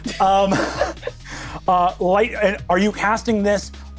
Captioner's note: chuckles